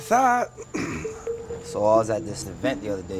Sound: clears throat

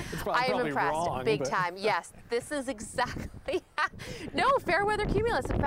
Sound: laughter

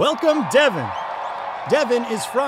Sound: audience cheering

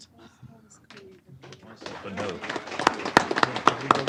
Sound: applause

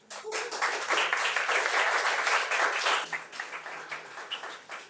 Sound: audience applauding

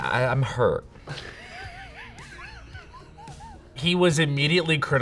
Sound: Matt laughs

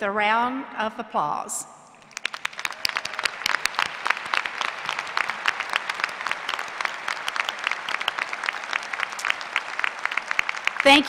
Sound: applause

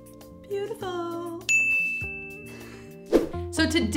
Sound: dinging

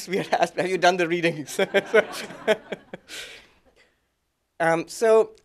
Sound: laughter

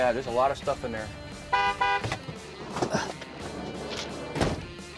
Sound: vehicle honks

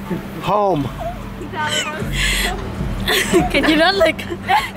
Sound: laughs

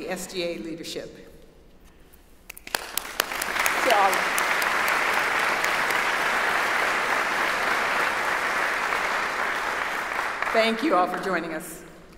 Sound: applause

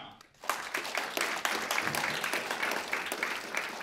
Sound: applause

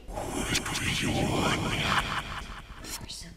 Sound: distorted voice in foreign language

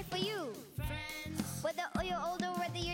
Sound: microphone feedback

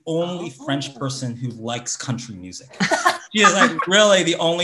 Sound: laugh

